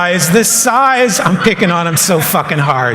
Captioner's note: laughter